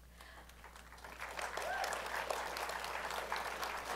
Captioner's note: applause